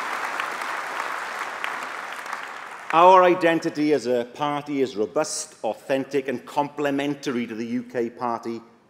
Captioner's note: applause